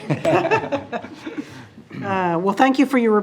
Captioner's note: laughing